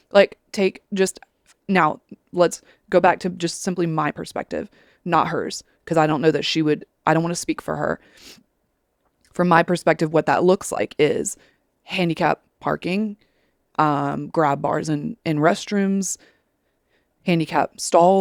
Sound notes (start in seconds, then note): 8.0 sniffles